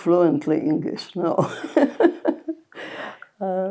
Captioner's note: laughing